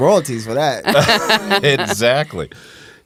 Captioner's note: laughing